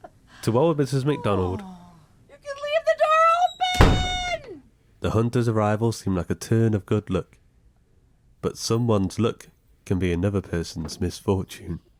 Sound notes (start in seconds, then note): 3.7 door bangs